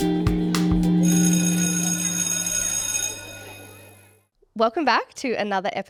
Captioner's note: school bell ringing